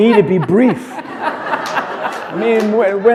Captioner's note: chuckle